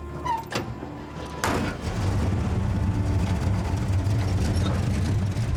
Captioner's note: engine starts